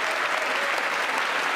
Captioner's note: applause